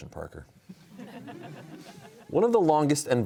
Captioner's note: laughter